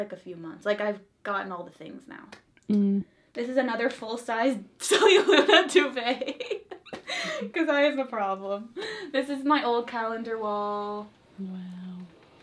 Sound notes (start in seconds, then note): 6.2 laughs